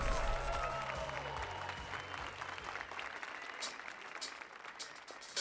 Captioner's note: applause and cheers